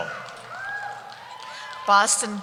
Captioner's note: cheering